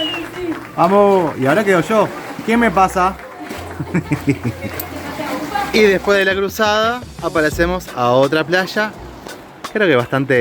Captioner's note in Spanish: risas